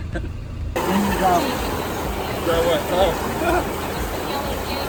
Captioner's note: laughing; background chattering